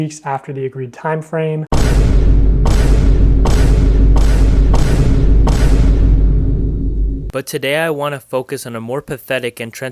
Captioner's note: boom